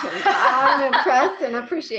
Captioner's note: laughs